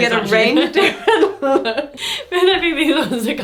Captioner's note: laughing